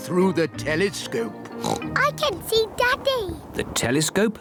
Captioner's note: oinks